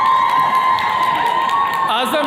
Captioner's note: attendees cheering